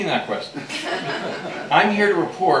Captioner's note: laughter